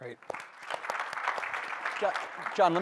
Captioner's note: applause